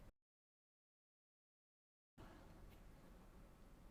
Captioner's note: silence